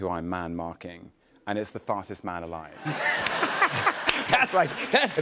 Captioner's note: laughter